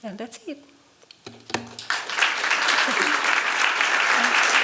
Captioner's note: applause